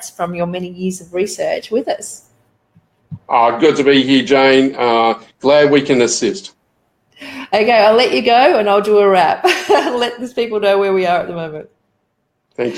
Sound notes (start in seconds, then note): 9.5 laughs